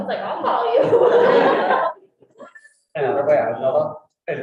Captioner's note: all laughing